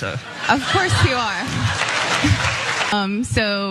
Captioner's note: applause